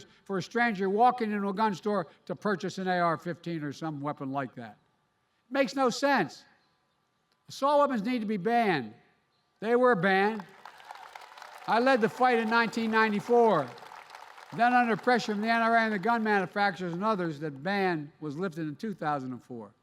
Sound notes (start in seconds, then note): 10.2 applause